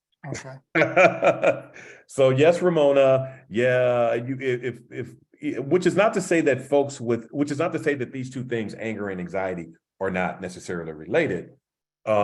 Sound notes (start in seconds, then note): 0.7 laugh